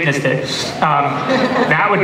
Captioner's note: laughter